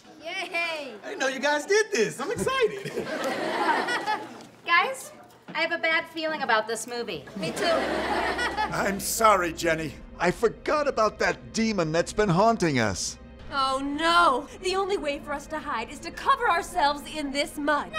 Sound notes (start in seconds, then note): 2.4 laughter